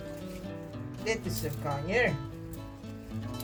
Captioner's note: speaking in foreign language